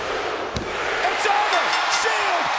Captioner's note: audience cheers; bell rings